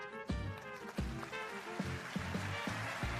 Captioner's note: applause